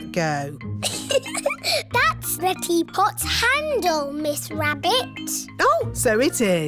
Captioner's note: giggles